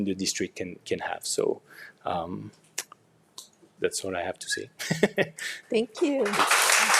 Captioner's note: chuckles; audience applauds